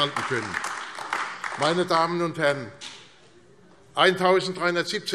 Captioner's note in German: Beifall AfD